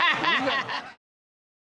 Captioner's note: laughing